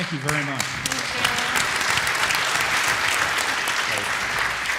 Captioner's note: applause